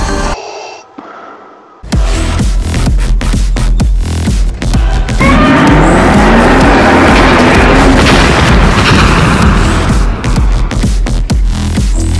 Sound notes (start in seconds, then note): 4.8 Godzilla scream